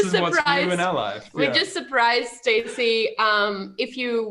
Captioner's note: laughing